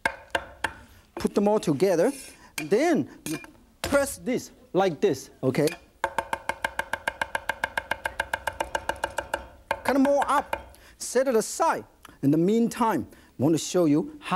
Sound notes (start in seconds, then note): 6.3 fast knife taps